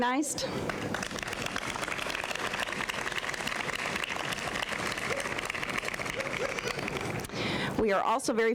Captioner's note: applause